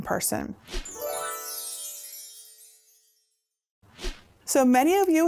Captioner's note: stars twinkling; air whooshing